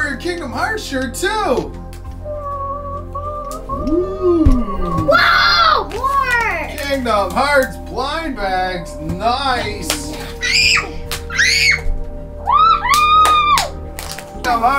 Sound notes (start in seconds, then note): 2.3 excited noises; 9.7 screams; 9.8 confetti pops; 12.8 claps